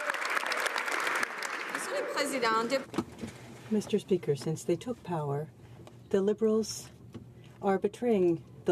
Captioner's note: applause